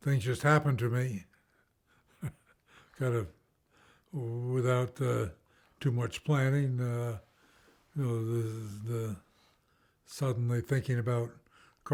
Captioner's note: chuckles